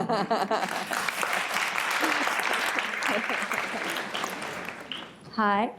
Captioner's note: applause